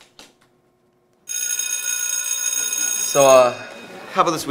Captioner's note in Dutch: bell rings